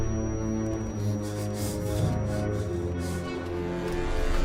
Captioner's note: rapid breathing